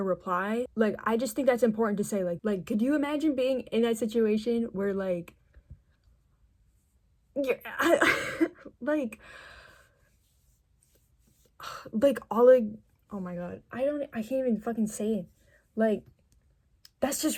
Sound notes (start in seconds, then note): 7.9 stammering